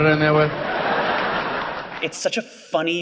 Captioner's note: audience laughing